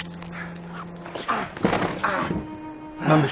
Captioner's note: clanking sound; heavy breathing